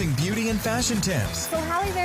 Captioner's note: voiceover